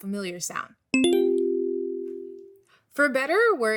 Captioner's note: bell chimes